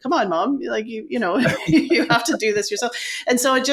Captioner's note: laughing